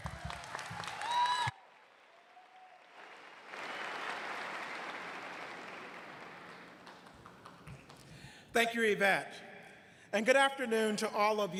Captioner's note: cheers and applause